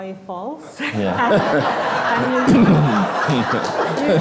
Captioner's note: all laughing